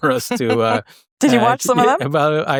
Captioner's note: chuckles